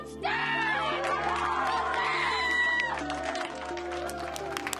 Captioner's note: applause